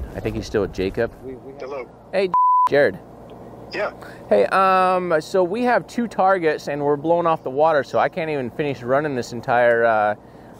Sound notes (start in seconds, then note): 2.3 beep